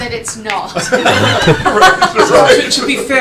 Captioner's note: laughter